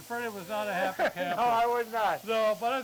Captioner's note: chuckles